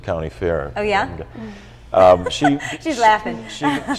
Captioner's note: chuckles